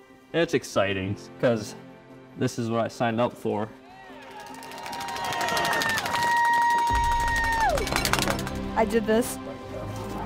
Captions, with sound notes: It's exciting because this is what I signed up for. [crowd cheering] [cowbells clanging] - I did this.